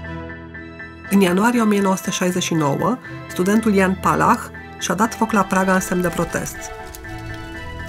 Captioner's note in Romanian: foc arzând